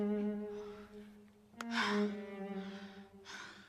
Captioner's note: sighs